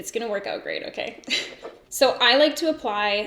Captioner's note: giggles